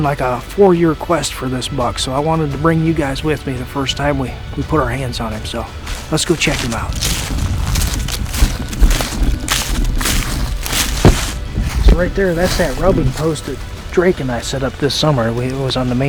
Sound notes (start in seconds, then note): 7.8 sound of walking